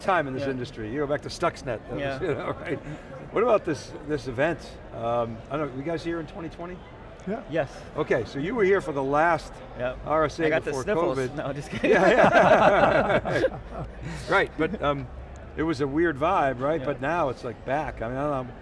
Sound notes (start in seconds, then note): 11.7 laughs